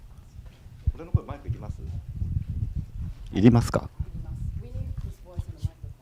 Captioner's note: speaking foreign language